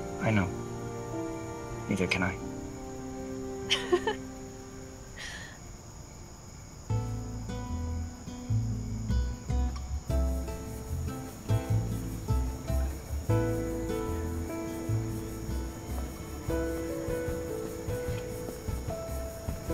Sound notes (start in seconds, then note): 3.6 chuckling; 7.6 soft music